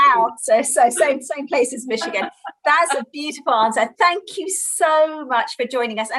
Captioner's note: laughter